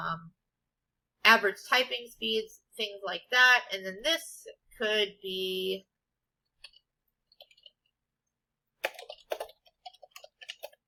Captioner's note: typing sounds